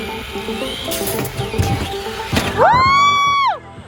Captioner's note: wheels accelerating; thudding